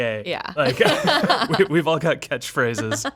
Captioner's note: laughing